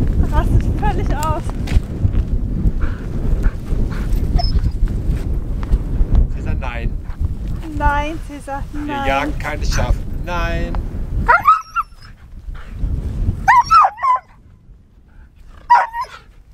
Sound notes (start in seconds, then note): 4.3 Caesar is whimpering; 10.9 Caesar is barking and howling